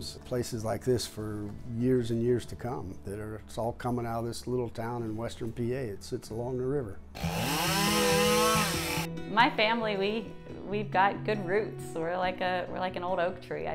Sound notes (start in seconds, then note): 7.1 power saw roaring